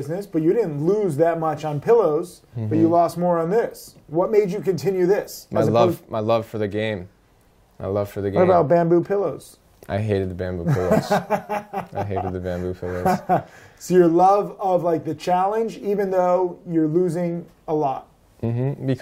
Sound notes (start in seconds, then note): 10.6 laughter